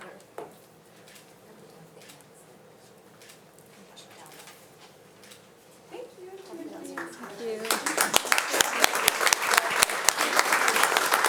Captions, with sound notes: (shutter clicking) Thank you. - Thank you. (audience applauding)